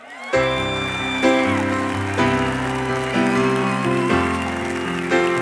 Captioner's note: applause